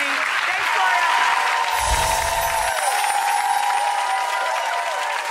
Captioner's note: audience applause